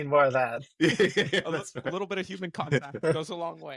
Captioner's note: laughing